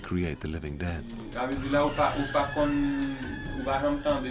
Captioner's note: man speaking Haitian Creole